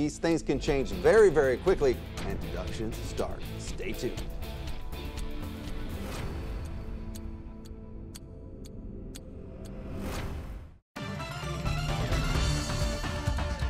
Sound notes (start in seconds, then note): 4.5 timer ticking; 4.5 upbeat music; 11.0 upbeat music